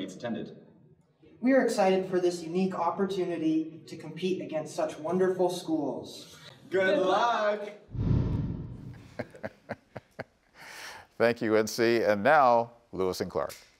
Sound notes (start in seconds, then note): 9.0 chuckles